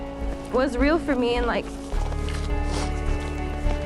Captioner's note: sniffling